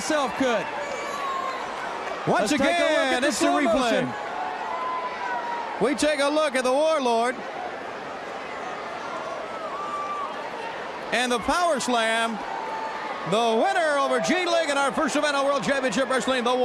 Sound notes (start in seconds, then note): 0.0 crowd cheering; 12.1 crowd chatter